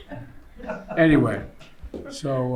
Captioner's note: laughter